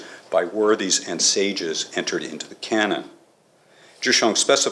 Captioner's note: none